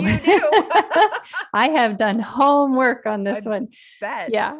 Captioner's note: laughter